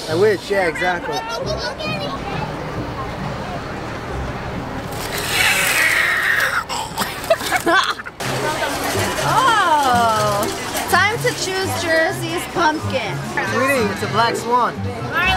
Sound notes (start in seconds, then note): 4.9 hissing; 7.1 laughing